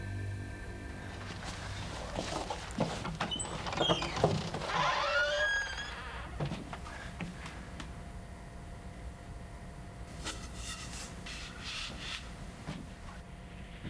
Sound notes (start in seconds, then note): 3.9 door squeaks